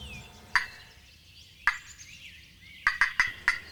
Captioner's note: turkey Call